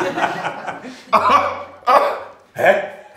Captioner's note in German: Ungläubiges Lachen; Lachen